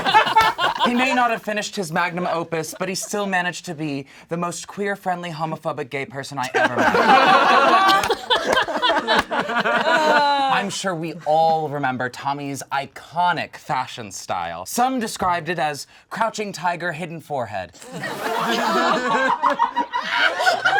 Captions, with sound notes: He may not have finished his magnum opus, but he still managed to be the most queer-friendly homophobic gay person I ever met. (all laugh) I'm sure we all remember Tommy's iconic fashion style. Some described it as crouching tiger, hidden forehead. (all laugh)